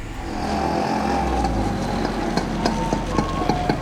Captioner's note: motorcycle engine revving